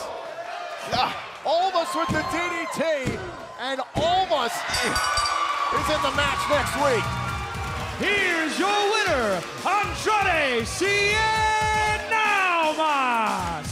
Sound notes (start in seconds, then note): 4.7 bell ringing; 5.8 crowd cheering